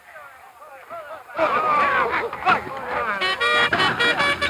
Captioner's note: men yelling; bugle blaring